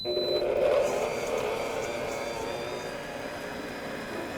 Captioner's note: mixer beeping; mixer whirring